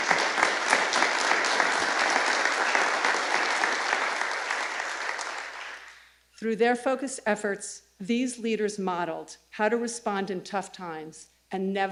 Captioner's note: applause